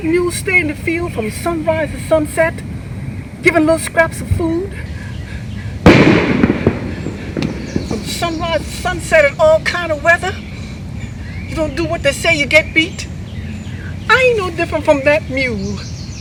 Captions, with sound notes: That mule stay in the field from sunrise to sunset, given little scraps of food. (thunder cracking) From sunrise to sunset in all kinds of weather. You don't do what they say, you get beat. I ain't no different from that mule.